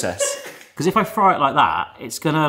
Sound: laughs

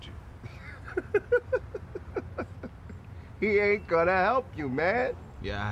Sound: laughs

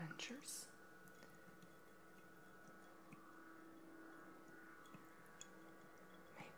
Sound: water Trickling

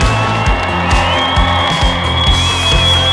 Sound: cheering

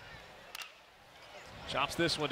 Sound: ball hitting bat

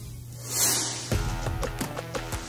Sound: electronic whooshing; upbeat music

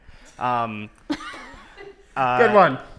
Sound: laughs

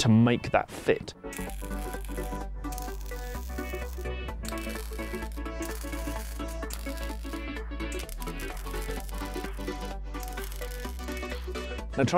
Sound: welding

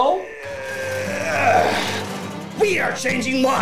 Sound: grunting, garage door opening sound effect

